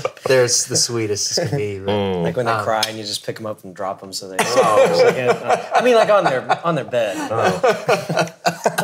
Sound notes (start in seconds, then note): 0.0 laughing; 4.4 laughing